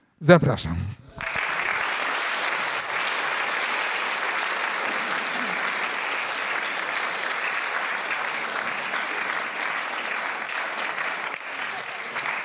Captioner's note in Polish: oklaski